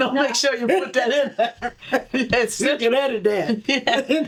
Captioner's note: laughter